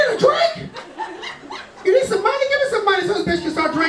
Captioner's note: laughing